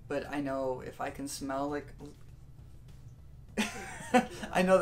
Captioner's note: laughter